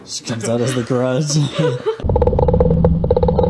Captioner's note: laughter